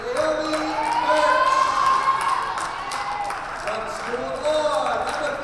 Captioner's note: crowd cheers